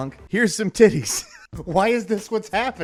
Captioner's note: laughing